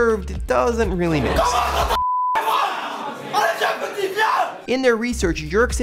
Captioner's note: screams